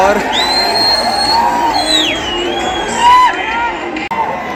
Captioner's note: cheering, whistling sounds